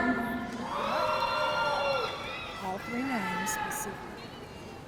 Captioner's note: audience cheering